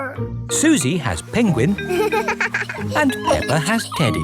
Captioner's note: giggles